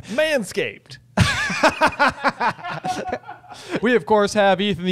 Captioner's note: laughter